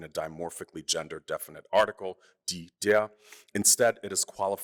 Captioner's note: speaking german